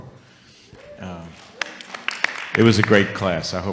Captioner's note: audience applauding